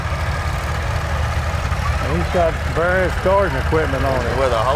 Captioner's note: revving continues